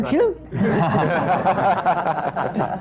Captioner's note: laughter